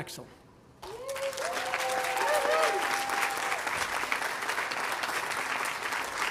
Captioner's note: audience cheering and applauding